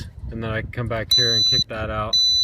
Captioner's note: beeps twice